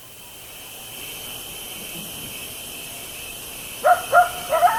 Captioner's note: insects chirping; coyotes howling